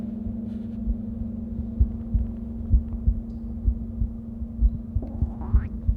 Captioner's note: interior body sounds